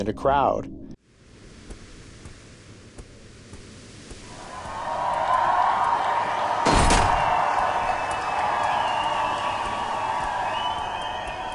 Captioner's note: sounds of the arena and the crowd cheering